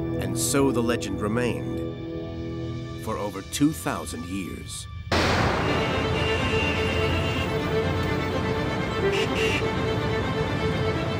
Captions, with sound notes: And so the legend remained for over 2,000 years. (intense upbeat music) (car horns blaring)